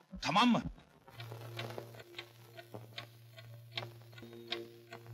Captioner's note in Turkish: saati̇n ti̇k tak sesi̇